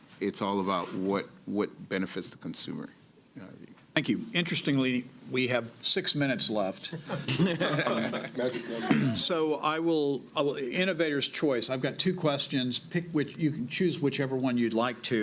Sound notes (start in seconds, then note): 6.9 laughter